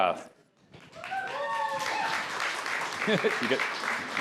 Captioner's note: applause